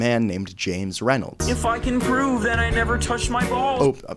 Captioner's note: differently voiced